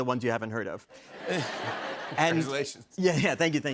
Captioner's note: laughter